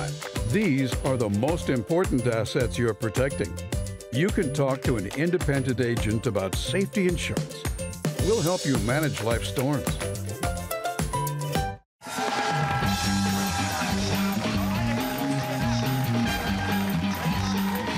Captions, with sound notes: These are the most important assets you're protecting. You can talk to an independent agent about Safety Insurance. We'll help you manage life's storms. (cheers and applause)